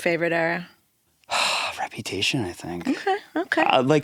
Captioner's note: exhales deeply